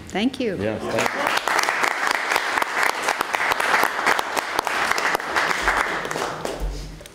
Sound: applause

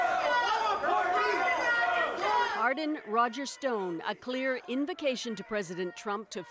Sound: shouting

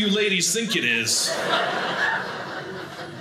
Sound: audience laughing

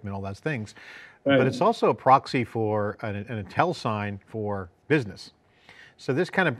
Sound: faintly speaking

